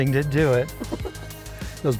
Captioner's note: child giggling